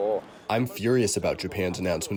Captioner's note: through translator